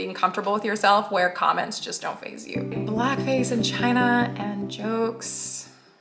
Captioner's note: low sullen voice